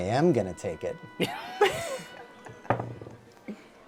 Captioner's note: laughter